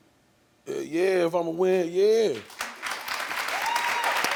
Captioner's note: audience applauds